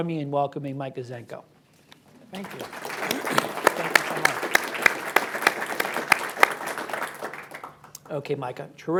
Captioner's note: applause